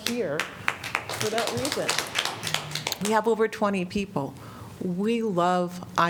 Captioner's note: applause